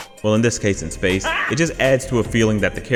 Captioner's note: got’em laugh clip